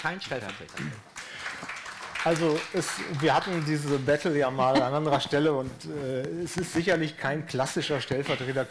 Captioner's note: applause